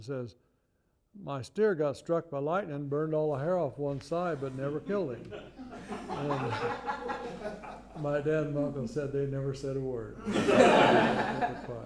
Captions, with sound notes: He says, My steer got struck by lightning, burned all the hair off one side but never killed him. (Laughter.) And my dad and my uncle said they never said a word.